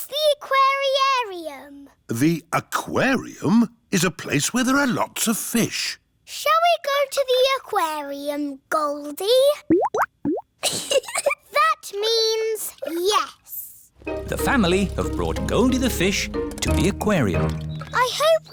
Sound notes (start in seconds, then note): 9.6 bubbling; 10.6 giggles